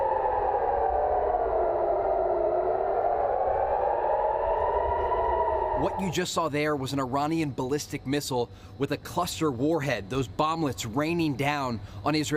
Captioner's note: sirens